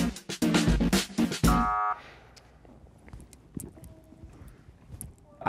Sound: upbeat pop music continues; soft buzzer sounds

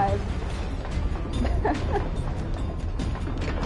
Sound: laughs

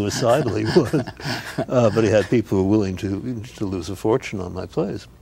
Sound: Ed chuckles

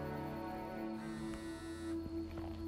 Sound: cellphone ringing: ex wife

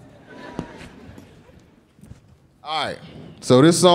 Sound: audience laughing

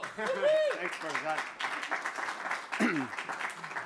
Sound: applause

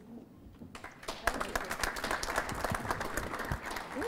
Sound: applause

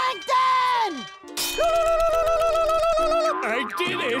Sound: squealling

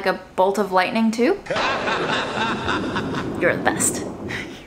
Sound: evil scientist laughing; lighting crashing

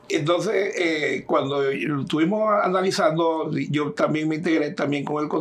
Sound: speaking in Spanish

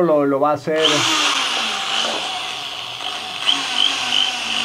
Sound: drill sound

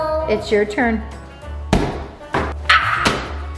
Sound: giant cube hits floor

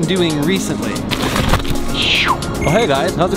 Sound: snow crunches

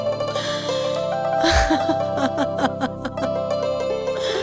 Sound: laughs

